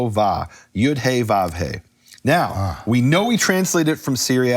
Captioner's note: speaking foreign language